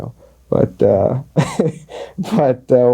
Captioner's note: laughs